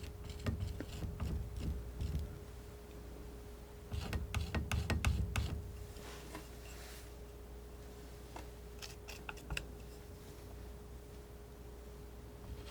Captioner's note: scratching